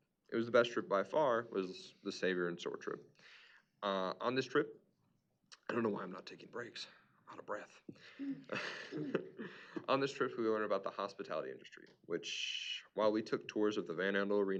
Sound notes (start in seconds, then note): 8.0 laughs